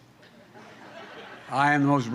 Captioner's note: laughter